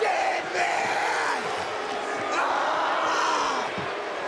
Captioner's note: screams; audience jeers